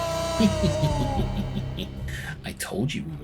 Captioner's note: villainous lil’ chuckle